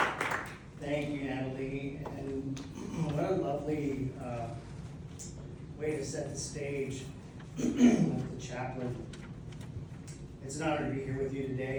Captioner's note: clears throat